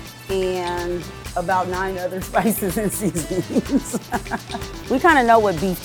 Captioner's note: laughs